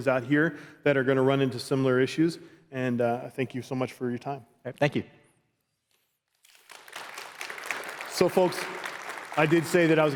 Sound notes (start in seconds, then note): 6.4 applause